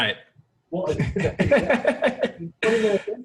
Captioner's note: laughing